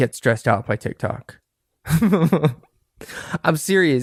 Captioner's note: laughter